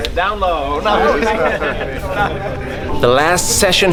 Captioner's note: laughing